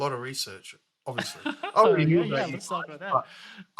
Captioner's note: laughs